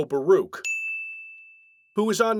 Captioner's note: ding